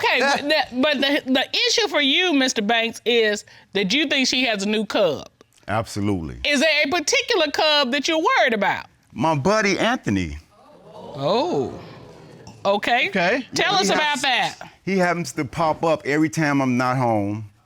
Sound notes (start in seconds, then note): 10.6 audience exclaims